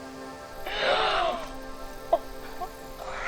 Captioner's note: girls gasping; girls softly laughing